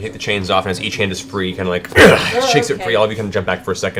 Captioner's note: grunts